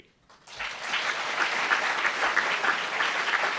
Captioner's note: applauds